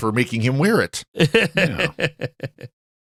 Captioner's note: laughing